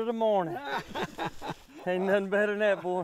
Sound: laughing

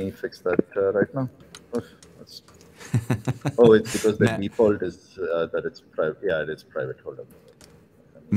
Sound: laughter

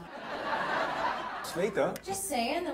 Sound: audience laughs

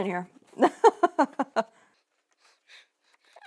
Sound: laughs

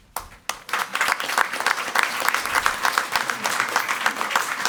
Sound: crowd clapping

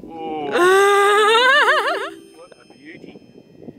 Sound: laughs

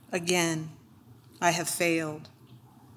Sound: none

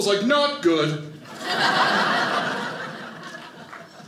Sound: audience laughing

